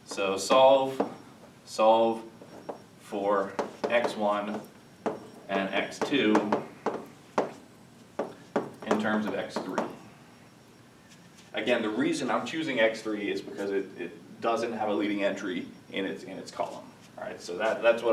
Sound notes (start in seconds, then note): 7.2 chalk tapping